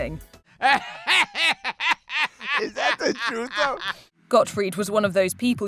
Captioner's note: laughing